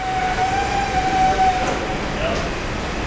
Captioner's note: engine revving